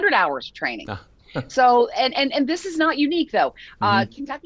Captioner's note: chuckles